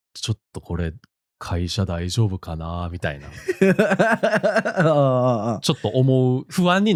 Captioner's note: laughs